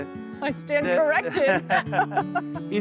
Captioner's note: laughing